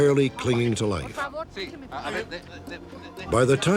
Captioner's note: speaking spanish